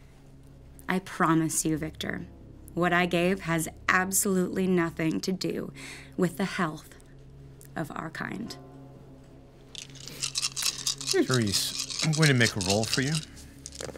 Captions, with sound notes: - I promise you, Victor. What I gave has absolutely nothing to do with the health of our kind. (dice rolling) - Therese, I'm going to make a roll for you.